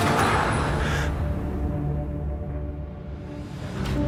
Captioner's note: gasping